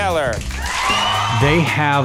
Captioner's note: crowd cheering